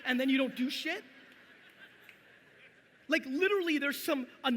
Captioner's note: audience laughing